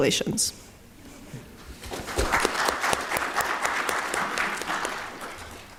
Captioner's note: applause